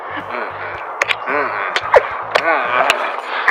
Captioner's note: kisses